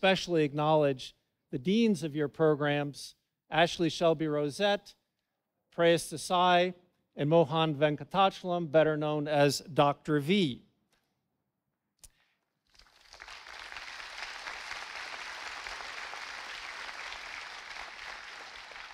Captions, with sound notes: And I'd like to especially acknowledge the deans of your programs, Ashleigh Shelby Rosette, Preyas Desai, and Mohan Venkatachalam better known as Dr. V. (audience applauding)